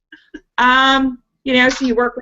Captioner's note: laughs